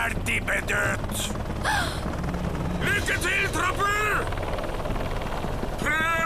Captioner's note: gasps